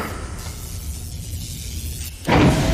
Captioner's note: electricity crackling